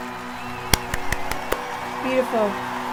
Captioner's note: hands clapping